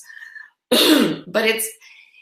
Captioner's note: clears throat